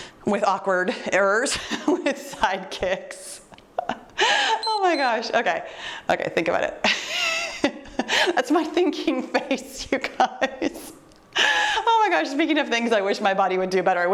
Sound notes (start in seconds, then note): 3.8 chuckles; 4.6 timer beeps; 6.9 chuckles